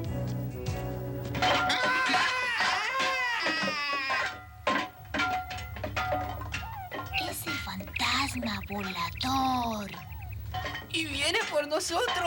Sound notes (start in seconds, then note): 1.6 bob screaming; 3.6 metallic clanging